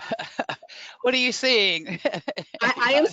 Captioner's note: laughs